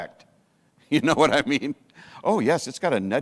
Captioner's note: chuckles